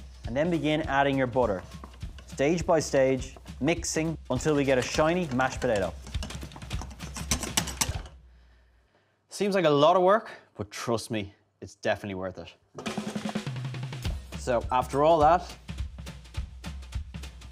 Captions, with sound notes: and then begin adding your butter. Stage by stage, mixing until we get a shiny mashed potato. (spoon whisking) Seems like a lot of work, but trust me, it's definitely worth it. So after all that,